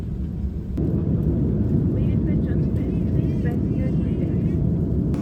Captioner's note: +turbulence